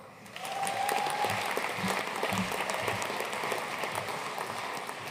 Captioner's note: audience cheering and applauding